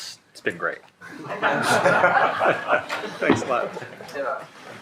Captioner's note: shared laughing